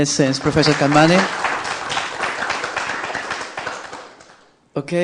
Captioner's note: applause